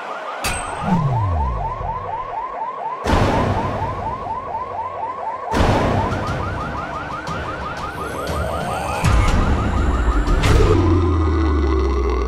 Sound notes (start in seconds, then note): 1.4 banging; 8.3 dramatic music